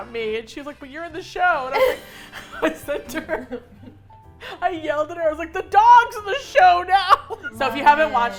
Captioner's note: laughing; laugh